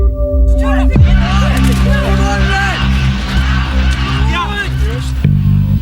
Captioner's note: indistinct cheering